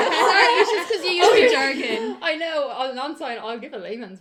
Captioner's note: laughter